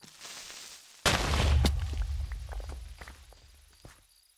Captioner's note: Creeper Hiss; explosion; boom!